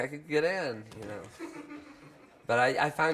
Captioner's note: crowd laughs